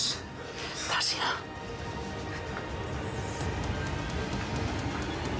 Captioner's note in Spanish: susurra